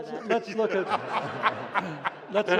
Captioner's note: laughter